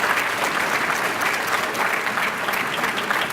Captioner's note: applause